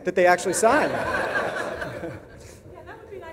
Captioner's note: audience laughs